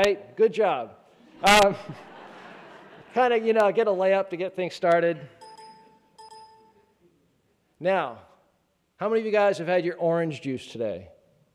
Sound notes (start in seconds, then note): 1.4 laughing; 5.3 notification dinging